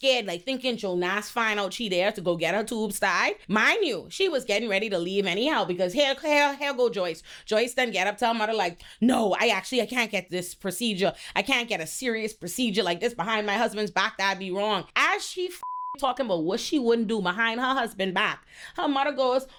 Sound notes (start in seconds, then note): 15.6 beep